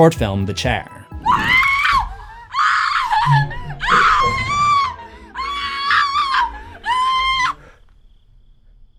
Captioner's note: screaming